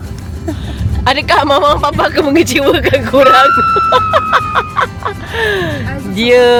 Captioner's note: laugh